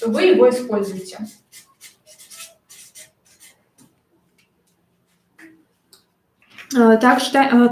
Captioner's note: скрежет маркера по бумаге